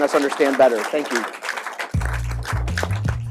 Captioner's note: applause; upbeat electronic music